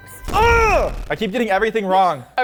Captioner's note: groans